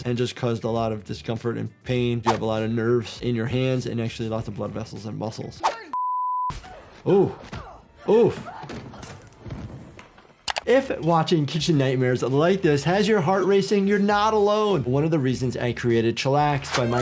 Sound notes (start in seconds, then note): 5.9 beep; 7.0 attacker grunting; 9.6 flames whooshing